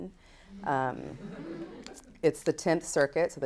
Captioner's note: audience laughs